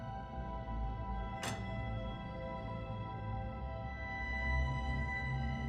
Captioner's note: prototype clicks